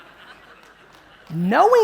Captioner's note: audience laughing